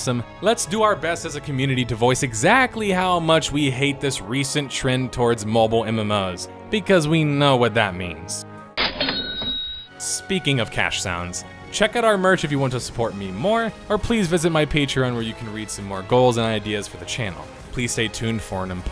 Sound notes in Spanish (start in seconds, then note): 8.8 Cash register sound CHA CHING